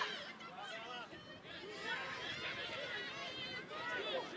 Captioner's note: shouting